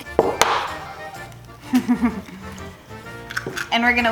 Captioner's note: laughs